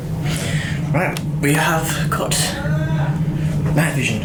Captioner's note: male screaming noise